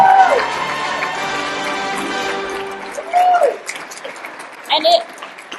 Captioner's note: music ends, applause